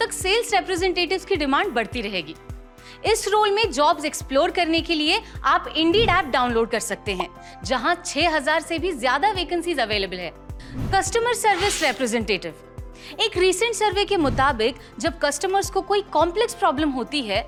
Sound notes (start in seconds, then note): 13.1 speaking hindi